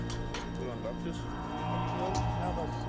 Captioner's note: men speaking German